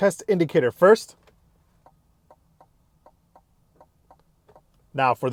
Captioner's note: indicator ticking